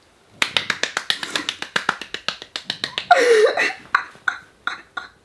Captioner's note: clapping; laughing